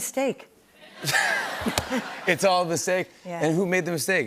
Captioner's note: laughter